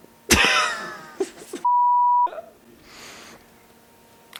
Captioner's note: laughing